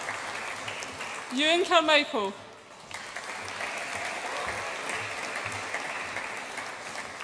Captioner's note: audience applauds